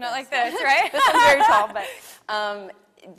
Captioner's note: laughs